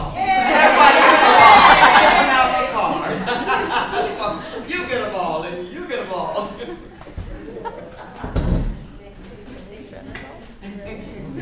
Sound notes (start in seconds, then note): 0.2 laughs out loud; 7.1 laughs